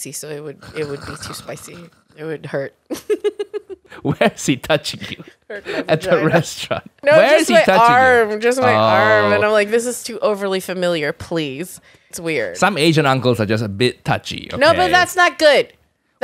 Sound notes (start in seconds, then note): 2.8 laughing